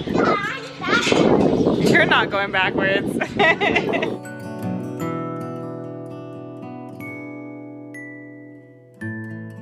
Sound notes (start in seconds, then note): 3.2 laughs; 3.2 light guitar music